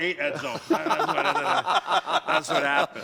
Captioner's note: laughter